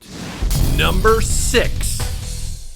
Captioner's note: explosion rumbles